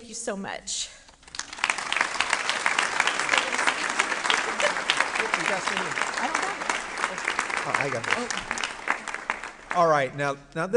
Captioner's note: applause